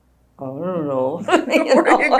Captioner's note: laughter